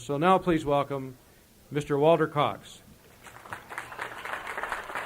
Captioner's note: applause